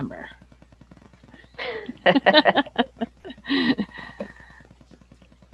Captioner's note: laughter